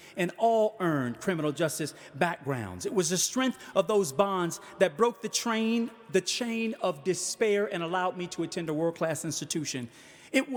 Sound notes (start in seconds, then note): none